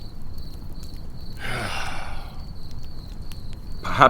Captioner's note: sighs